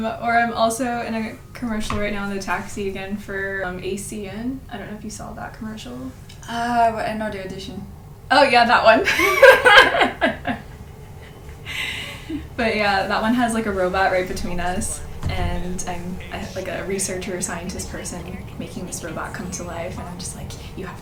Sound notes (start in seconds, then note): 9.4 laughs